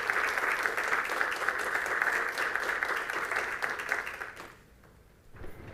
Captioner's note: applause